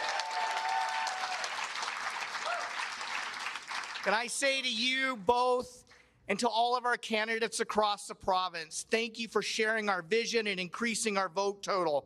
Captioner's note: applause